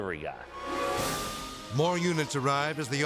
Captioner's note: sirens blaring